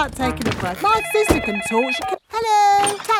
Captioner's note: cellphone ringing